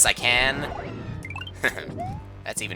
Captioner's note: laughs